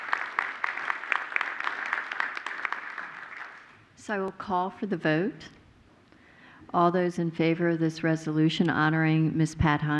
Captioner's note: applause